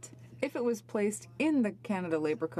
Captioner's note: speaking french